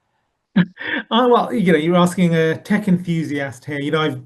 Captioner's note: laughs